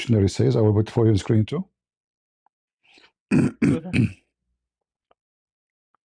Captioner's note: clears throat and cough